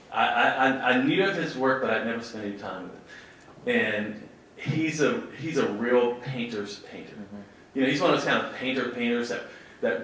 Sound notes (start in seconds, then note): none